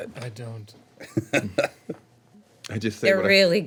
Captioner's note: laughing